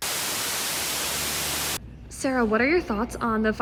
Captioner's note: static buzzes